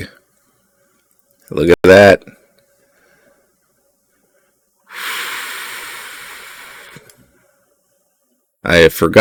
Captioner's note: annoyed exhale